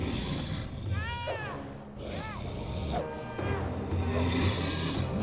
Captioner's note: sphinx growling; Ryder whimpering; sphinx roaring